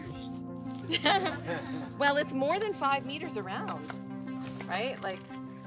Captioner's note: laughs